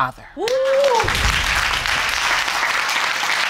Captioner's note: audience applauding